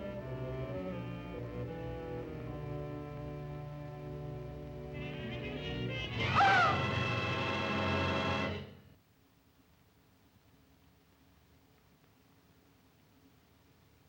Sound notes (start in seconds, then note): 6.2 suspenseful music; 6.3 Eve yelps